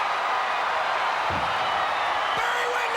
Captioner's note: crowd cheering